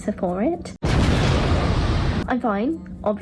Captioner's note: metal exploding